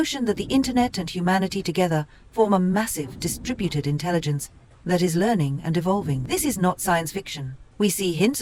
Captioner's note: bubbles and crashes